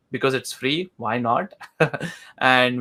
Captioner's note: laughs